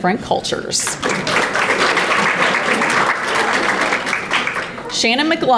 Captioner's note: audience applauding